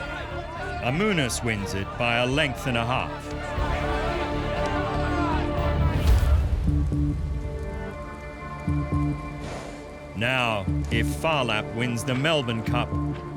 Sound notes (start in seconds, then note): 3.5 all shouting; 9.2 horse snorting